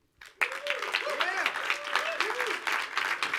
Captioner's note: audience applauds